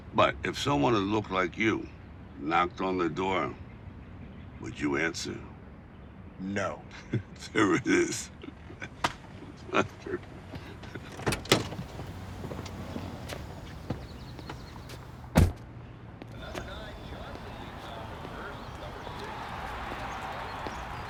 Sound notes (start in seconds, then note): 11.4 car door clicks; 11.7 laughs; 15.3 car door slams